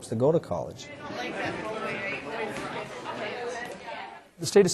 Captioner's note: students chattering